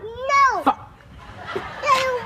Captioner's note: audience laughing